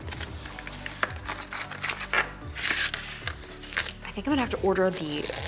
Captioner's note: cardboard rustling